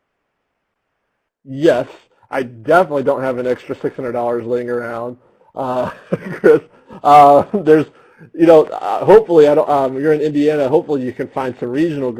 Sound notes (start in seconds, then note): 5.6 laughs